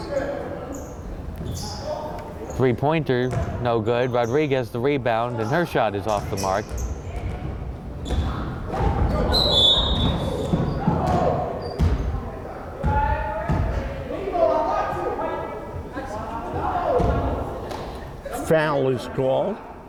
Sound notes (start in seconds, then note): 9.3 whistle blowing; 11.6 crowd chattering and yelling